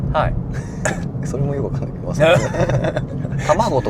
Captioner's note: laughs